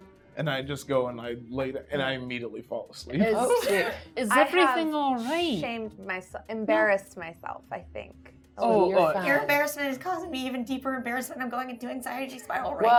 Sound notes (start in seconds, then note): none